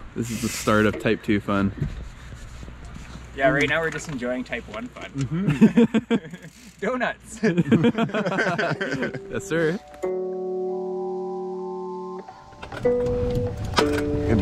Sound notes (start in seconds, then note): 7.4 laughter; 10.3 mellow guitar music